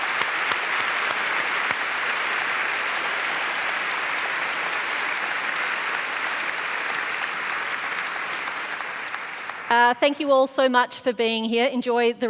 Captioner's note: applause